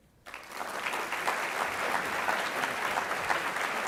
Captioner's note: audience applauds